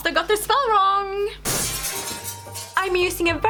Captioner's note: sounds of something crashing